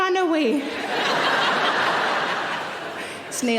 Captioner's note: audience laughing